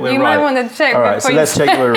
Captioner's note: laughter